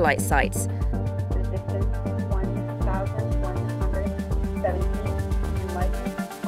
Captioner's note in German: Voiceover